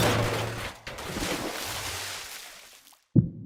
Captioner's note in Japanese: 物が激しく倒される音; 水をぶっかけられる音; 大瀬の心音